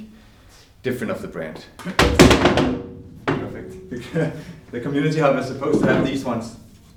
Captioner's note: laughs